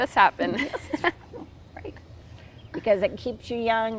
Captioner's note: both chuckles